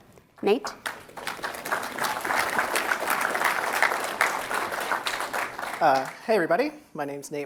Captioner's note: applause